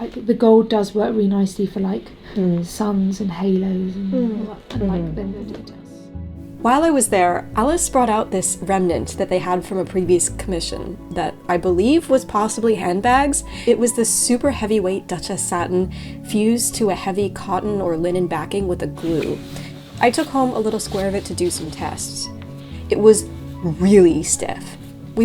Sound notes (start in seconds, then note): 4.6 designers quietly chattering